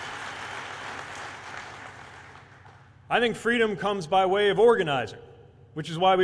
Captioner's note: cheers/applause